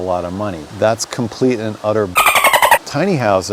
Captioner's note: dolphin squeaks